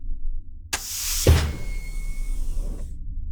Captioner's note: the panel door hissing shut, the figure leaving